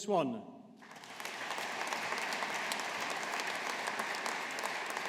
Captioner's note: audience applauding